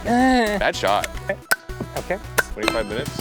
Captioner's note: gun pops